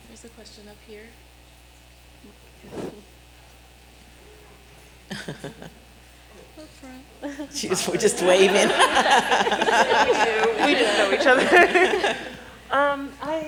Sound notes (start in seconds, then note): 5.1 chuckling; 7.2 laughter